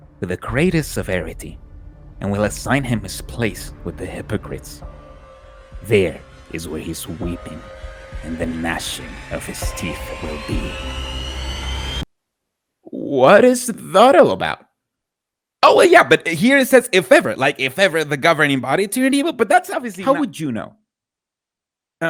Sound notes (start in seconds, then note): 6.2 soft scream sound effects